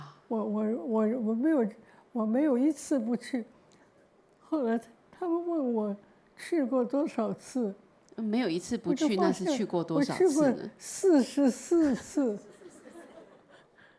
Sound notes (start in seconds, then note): 8.6 Mandarin; 11.8 laughter